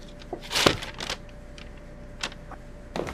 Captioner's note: bags hitting floor